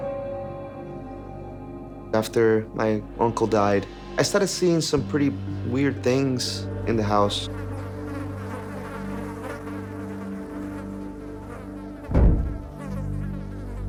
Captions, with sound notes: (suspenseful music) - After my uncle died, I started seeing some pretty weird things in the house. (flies buzzing) (loud thumps)